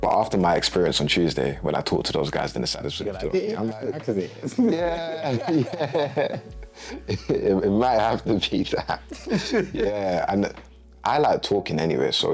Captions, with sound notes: when I talked to those guys, then the sadder's would have told me. - Yeah, I did, actually. - Yeah, yeah, yeah. (laughing) It might have to be that. Yeah, and I like talking anyway,